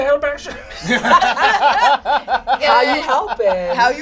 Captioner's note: all laugh